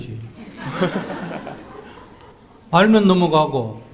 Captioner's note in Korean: 청중 / 질문자 웃음